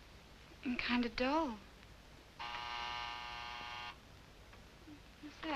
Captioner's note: buzzer sounds